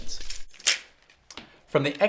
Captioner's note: keys rattle